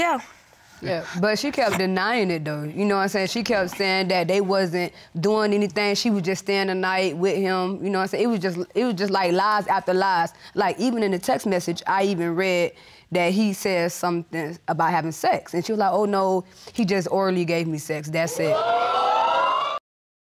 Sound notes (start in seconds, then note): 18.5 audience exclaiming